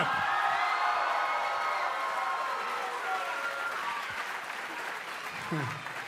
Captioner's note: cheers & applause